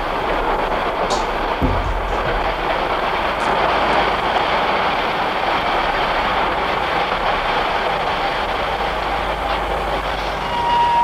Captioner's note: train noise